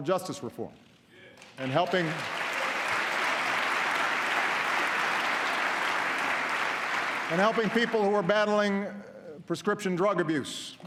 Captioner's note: applause